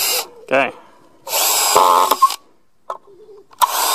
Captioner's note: whirling